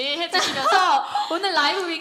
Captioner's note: laughter